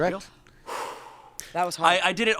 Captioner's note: sighs